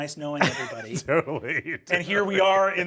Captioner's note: chuckles